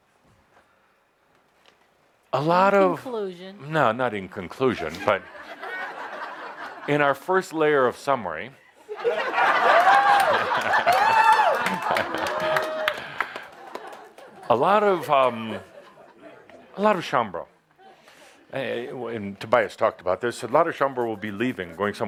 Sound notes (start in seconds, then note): 8.6 laughter; 12.4 lots of laughter